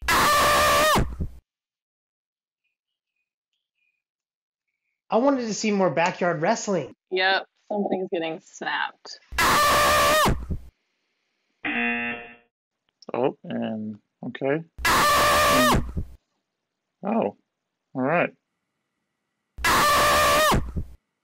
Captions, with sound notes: (video screams) I wanted to see more backyard wrestling! - Yep, something's getting snapped. (video screams) (buzzer rings) - Oh, and, okay... (video screams) Wow, alright. (video screams)